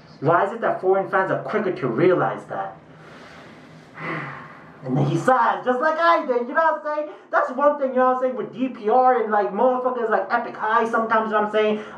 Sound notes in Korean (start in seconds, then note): 2.9 날숨; 2.9 스읍